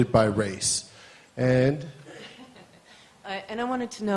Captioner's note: laughter